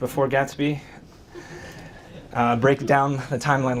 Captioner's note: audience chuckles